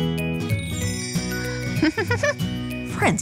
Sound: stars sparkles; Shine giggling

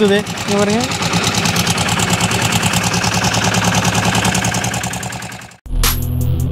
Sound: machine noise

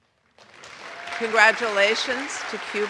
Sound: audience applauds

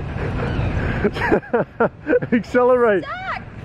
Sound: laughs

